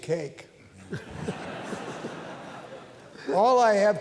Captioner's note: laughter